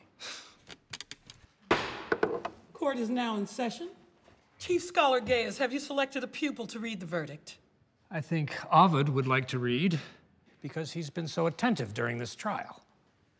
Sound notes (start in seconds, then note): 0.2 sighs; 1.7 bangs gavel